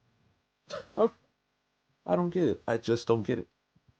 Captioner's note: scoffs